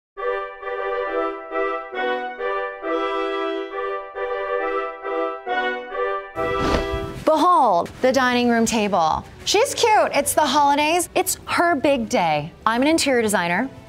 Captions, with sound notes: [gentle lilting music] [tablecloth whooshing] - Behold! The dining room table. She's cute. It's the holidays, it's her big day. I'm an interior designer,